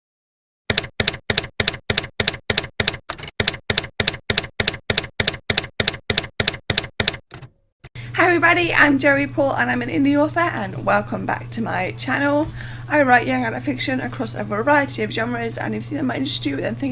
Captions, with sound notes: [TYPEWRITER KEYS CLACKING] Hi everybody! I'm Joey Paul, and I'm an indie author, and welcome back to my channel. I write young adult fiction across a variety of genres and if you think that might interest